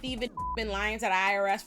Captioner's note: beep